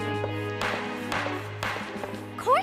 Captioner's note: gavel banging